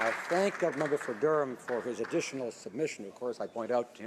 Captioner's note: some Applause